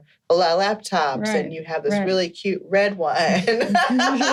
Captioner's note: laughing